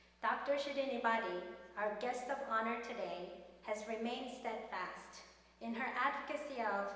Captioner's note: none